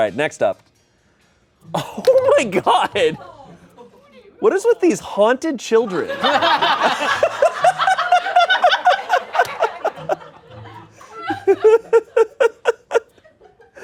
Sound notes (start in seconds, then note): 6.0 everyone laughs